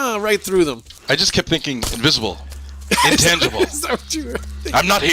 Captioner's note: laughing